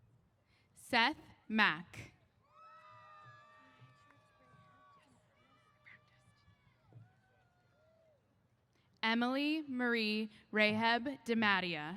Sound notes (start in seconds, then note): 2.4 cheers